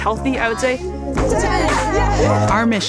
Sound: group cheering

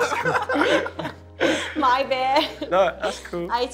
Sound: laughing

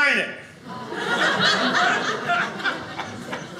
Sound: audience laughing

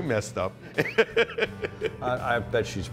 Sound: laughing

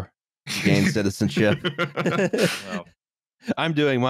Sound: laughter

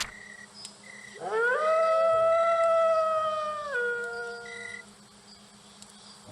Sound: wolf voice

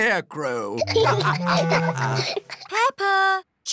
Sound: laughter

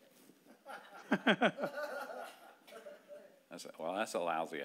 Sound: laughing

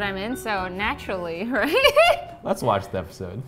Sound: laughs

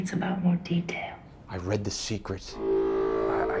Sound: loud horn

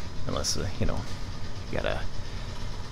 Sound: none

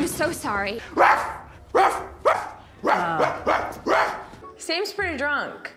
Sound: man barking; reviewer groaning

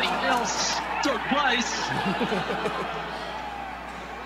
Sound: crowd cheering; crowd at Masters cheering

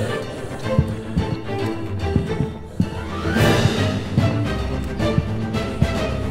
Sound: ghost groaning, stomping

